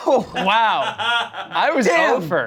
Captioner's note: laughing